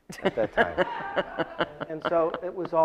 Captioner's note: audience laughs